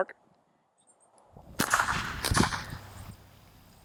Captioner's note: gun shots